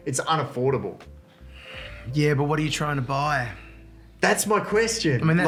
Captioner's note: sighs